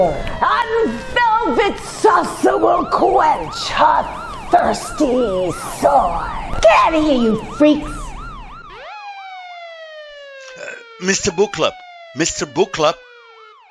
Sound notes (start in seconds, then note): 8.9 siren continues